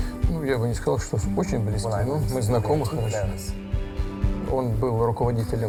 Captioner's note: speaking foreign language